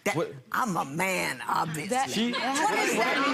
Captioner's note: laughing